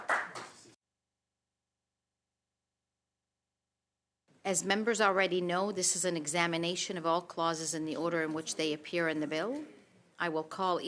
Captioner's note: applause